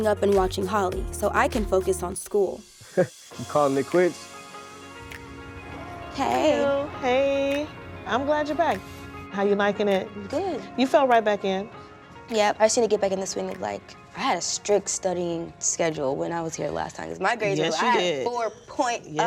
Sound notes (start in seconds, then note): 3.2 chuckles; 5.8 upbeat music